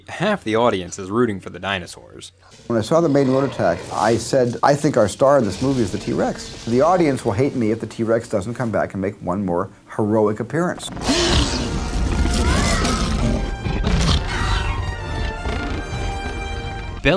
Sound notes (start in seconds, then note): 10.8 T. rex roars; 13.6 triumphant orchestral music